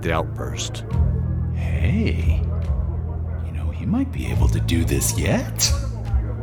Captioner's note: hushed